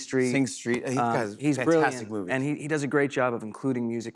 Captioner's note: none